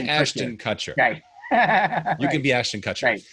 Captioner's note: laughing